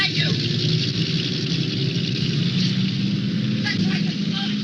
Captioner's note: car engine roaring